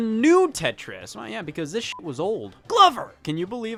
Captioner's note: beep